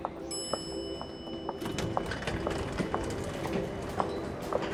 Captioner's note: elevator chimes